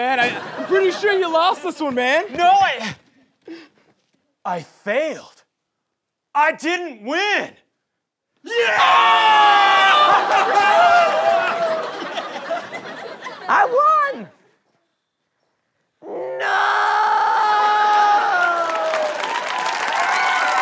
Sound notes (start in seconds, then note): 10.9 cheering